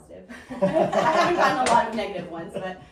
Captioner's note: laughing